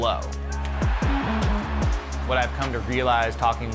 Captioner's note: crowd cheering